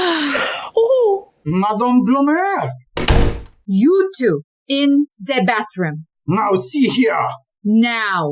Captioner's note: door slams shut